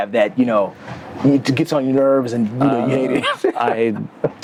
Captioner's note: laughs